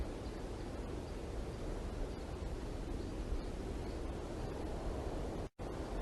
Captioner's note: air conditioning